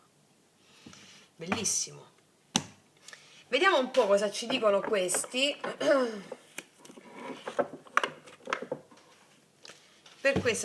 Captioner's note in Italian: schiarire la voce